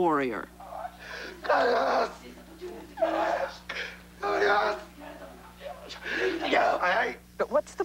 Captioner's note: speaking Japanese